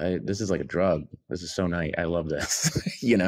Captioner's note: laughs